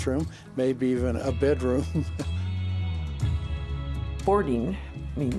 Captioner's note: chuckles